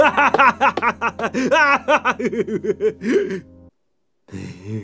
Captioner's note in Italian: Altre risate in sottofondo